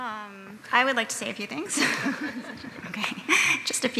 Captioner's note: laughter